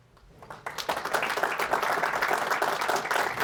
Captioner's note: audience applauds